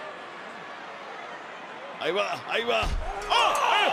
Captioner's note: applause